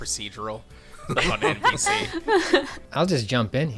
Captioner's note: laughter